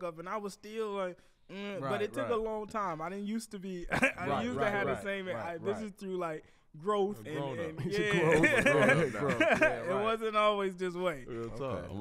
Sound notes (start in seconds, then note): 3.9 laughs; 7.8 all laugh